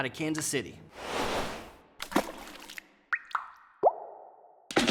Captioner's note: splashing and dripping